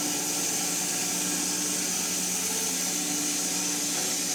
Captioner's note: mill whirring